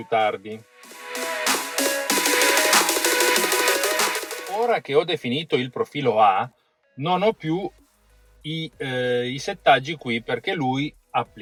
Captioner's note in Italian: Applauso